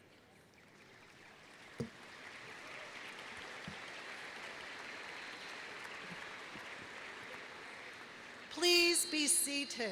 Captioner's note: applause